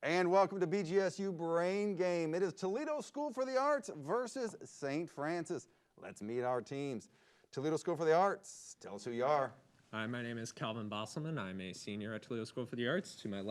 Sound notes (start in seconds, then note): none